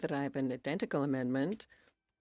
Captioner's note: speaking French